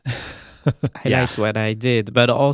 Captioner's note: laughing